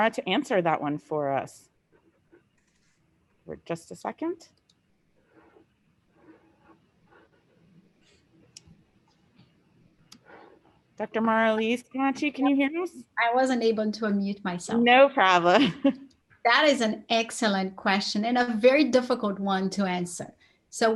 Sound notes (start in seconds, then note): 15.8 laughs